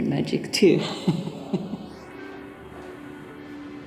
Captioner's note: chuckles